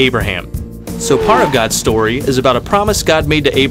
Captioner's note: upbeat music; zoom, brakes squeal